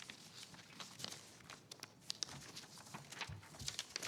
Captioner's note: paper shuffling